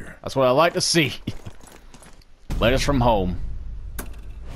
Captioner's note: laughing